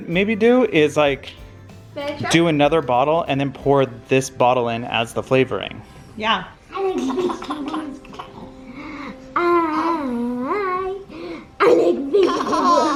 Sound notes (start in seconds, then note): 6.8 giggles; 11.6 giggles